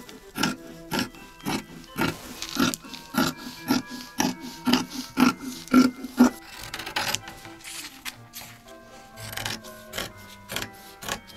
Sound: scissors snipping

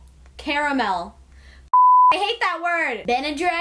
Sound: beep

